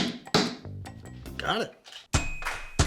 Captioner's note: hammering